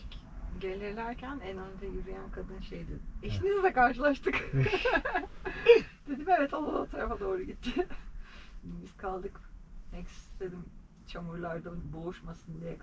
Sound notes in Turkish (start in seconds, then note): 4.3 kahkaha